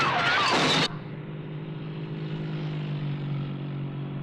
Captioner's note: furniture crashing; Julie screaming